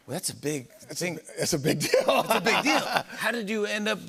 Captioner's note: laughs